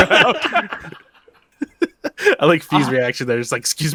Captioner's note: laughs